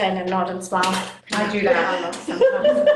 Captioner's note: laughter